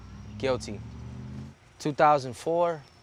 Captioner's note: vehicles revving